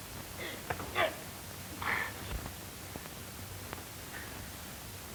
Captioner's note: Malone grunts